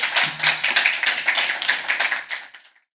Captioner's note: participants clapping